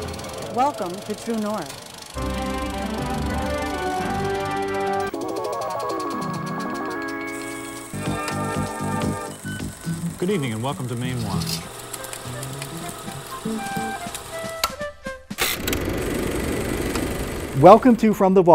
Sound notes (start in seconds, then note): 1.7 upbeat music; 5.3 mysterious music; 11.8 upbeat music; 12.4 projector clicking